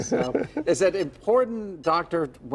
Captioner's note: laughter